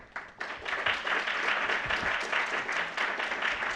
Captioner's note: applause